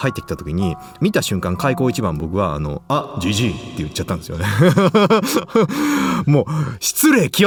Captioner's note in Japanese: 笑い